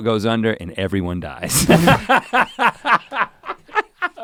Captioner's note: laughs